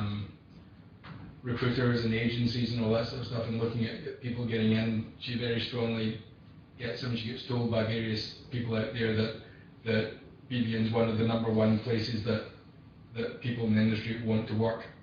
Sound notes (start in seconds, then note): 7.0 audio distorts